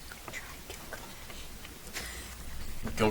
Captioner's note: contestants speaking faintly